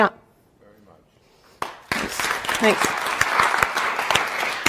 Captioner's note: audience clapping